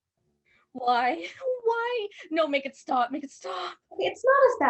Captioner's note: sobbing